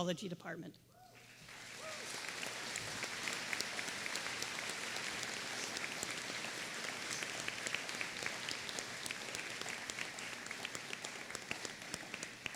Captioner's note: applause